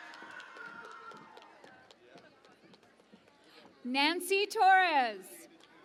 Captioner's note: cheering and Applause